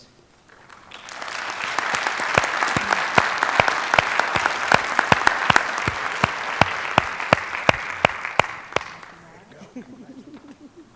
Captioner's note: applause